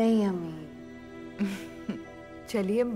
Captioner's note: Chuckles